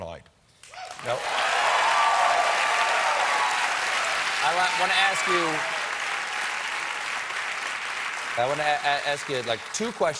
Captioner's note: cheers and applause